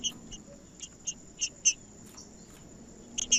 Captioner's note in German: trinca ferro cantando